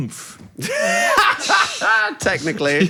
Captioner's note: laughs